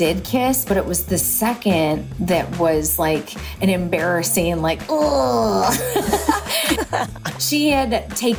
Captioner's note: laugh